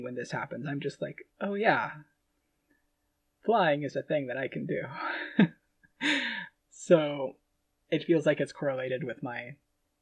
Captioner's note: laughing